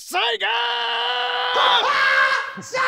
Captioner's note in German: Verrückter Schrei